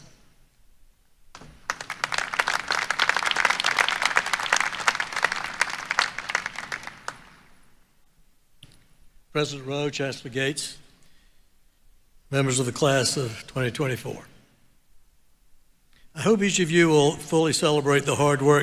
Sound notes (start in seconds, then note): 3.1 applause